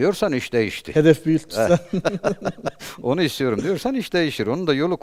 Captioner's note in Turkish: kahkaha